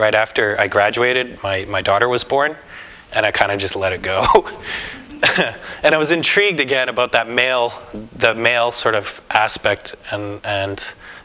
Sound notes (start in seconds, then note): 4.2 laughter